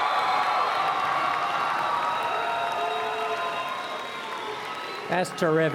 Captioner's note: cheers and Applause